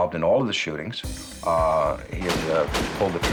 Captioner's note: gunshots